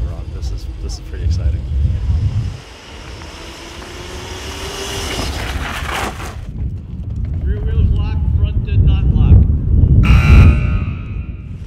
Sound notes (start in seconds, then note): 2.6 engine revving; 10.0 buzz